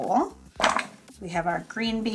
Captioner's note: vegetables clattering